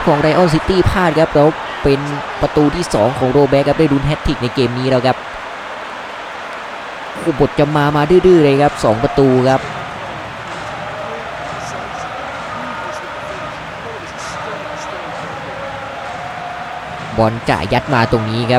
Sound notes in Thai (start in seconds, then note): 13.4 ปรบมือ